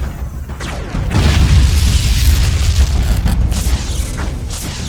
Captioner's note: explosion booms; electricity crackling